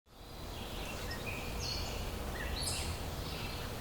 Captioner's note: birds singing